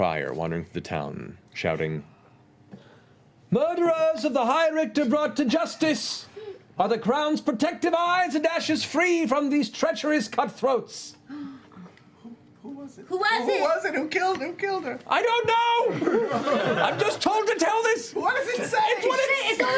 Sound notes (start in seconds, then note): 15.5 shouting